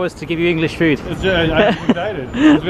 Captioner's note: laughter